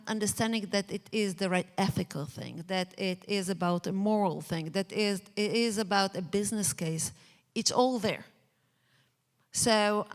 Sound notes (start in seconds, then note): none